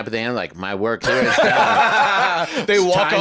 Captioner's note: laugh